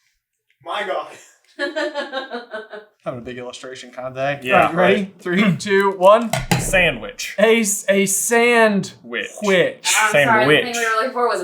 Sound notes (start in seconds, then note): 1.6 laughing